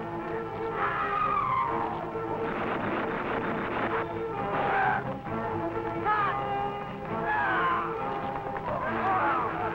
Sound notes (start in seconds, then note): 2.5 guns firing; 2.5 troops yelling